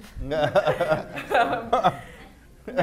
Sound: laughter

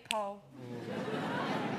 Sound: audience laughter

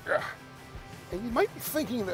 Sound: grunting

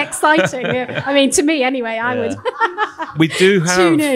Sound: laughs

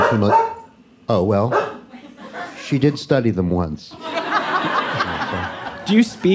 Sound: Macy barks

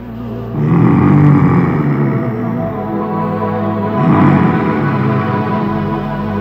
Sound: grunts

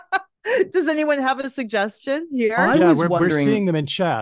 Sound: laughs

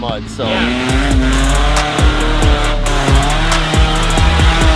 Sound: engine revving

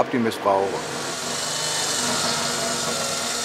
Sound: whirring

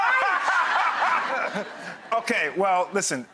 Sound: audience and Dr. Ian laugh

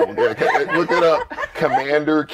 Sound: laughter

